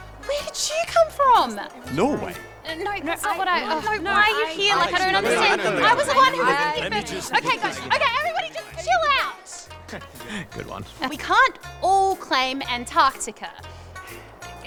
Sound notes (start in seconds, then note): 10.2 chuckles